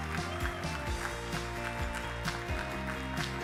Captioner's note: audience applauding; attendee cheering; audience applauding; upbeat music